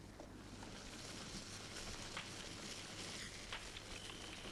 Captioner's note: fire crackling